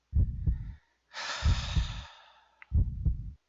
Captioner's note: sighs of finally exiting the freaking tutorial room